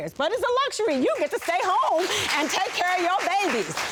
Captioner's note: audience applauding